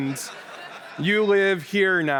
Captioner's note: laughter